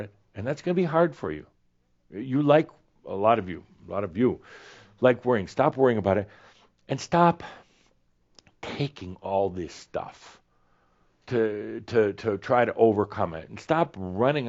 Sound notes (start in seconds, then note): none